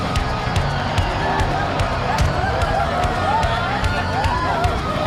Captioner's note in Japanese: 歓声